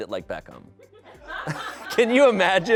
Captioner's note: audience laughing